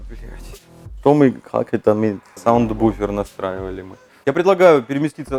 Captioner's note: goofy accent